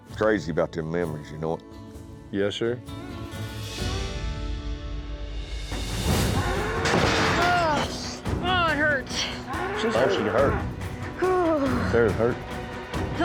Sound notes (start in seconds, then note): 6.3 cattle bellowing